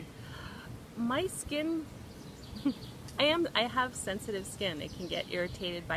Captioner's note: chuckles